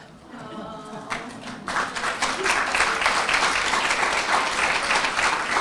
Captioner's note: applause